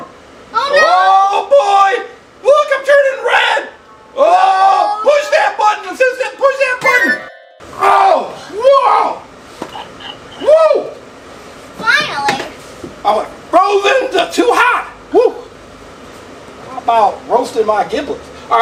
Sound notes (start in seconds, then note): 7.6 yells; 7.6 exclaiming